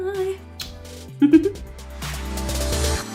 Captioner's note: giggles; upbeat electronic music